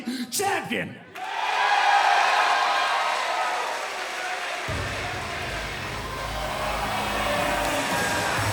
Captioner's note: cheers & applause